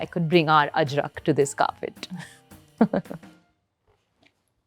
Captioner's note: chuckles; lively jazz music stops